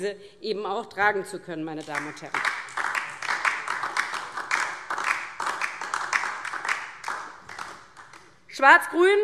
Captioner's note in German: Beifall